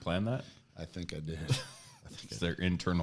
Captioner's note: chuckles